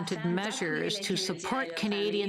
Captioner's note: speaking French